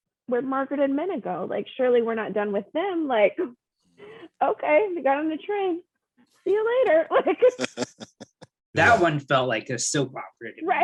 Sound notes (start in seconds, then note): 7.5 laughs